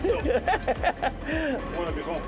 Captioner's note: laughs